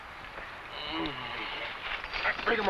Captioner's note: man groans